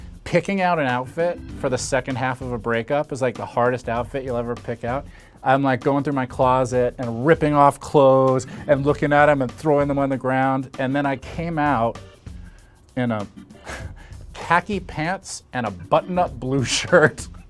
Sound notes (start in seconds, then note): none